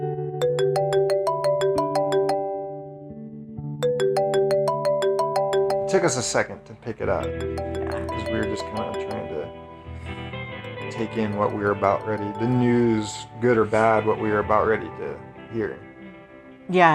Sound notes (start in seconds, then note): 0.4 phone ringing